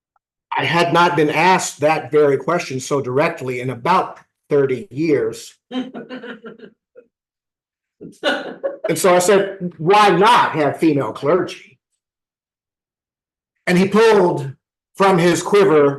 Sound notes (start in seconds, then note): 5.5 laughter